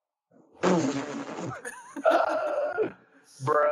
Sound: Laughs in end game

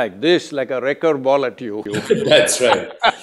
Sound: laughs

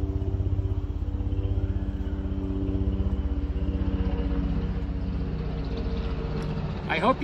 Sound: helicopter passes overhead

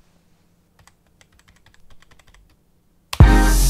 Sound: keyboard clicking; upbeat music

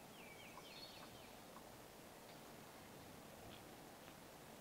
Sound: birds chirping

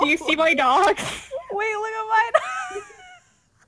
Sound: wheeze; laughing

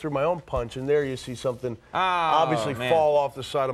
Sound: Conan groans

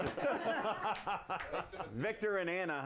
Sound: laughter

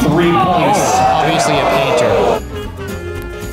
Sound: crowd cries out in shock

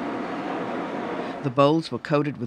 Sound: voiceover

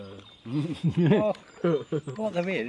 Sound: laughter

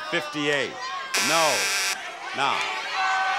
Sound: alarm buzzes

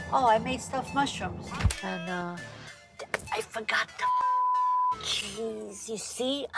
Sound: beep

